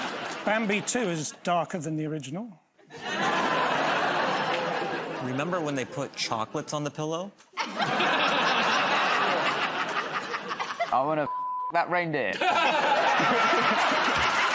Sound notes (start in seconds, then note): 2.8 laughter; 7.5 laughter; 12.3 laughter